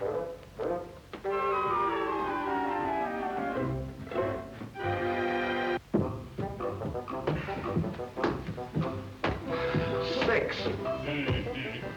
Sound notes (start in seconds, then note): 5.8 footsteps plodding; 6.2 gentle music